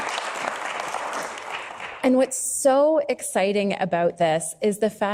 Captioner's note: applause